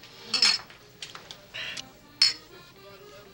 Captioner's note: glasses clink